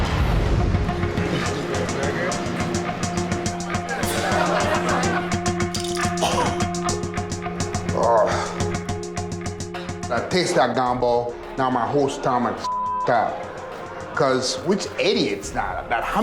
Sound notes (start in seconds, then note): 0.1 suspenseful music; 4.2 customers chattering; 5.9 vomiting; 12.6 beep